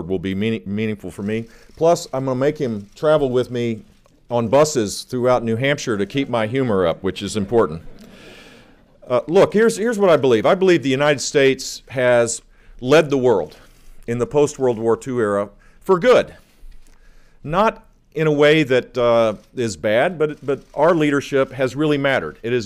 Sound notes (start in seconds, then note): 7.4 laughter